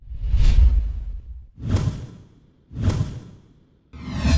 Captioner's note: electronic whooshing